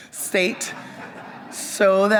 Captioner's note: audience members laugh